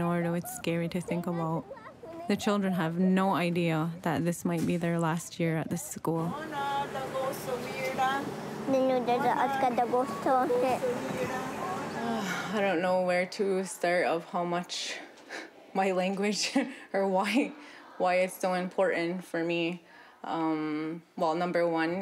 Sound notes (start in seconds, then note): 9.6 speaking native language